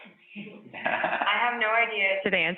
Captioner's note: laughs